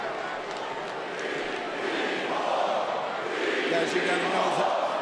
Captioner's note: crowd chanting